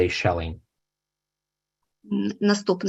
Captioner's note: foreign language